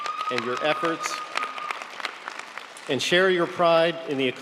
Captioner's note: audience applauding